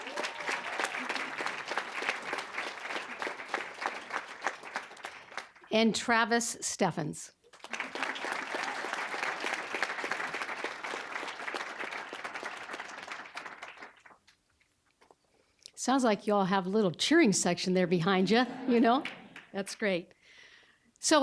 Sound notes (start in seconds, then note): 0.0 applause; 7.4 applause; 18.2 audience chuckling